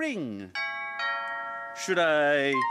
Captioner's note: bell ringing